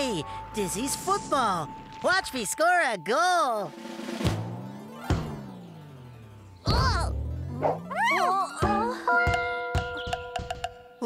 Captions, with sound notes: HEY! DIZZY'S FOOTBALL! WATCH ME SCORE A GOAL. ( Thump ) WHUH? TOOT!